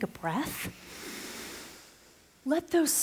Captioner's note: audible breath